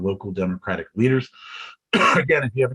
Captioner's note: coughs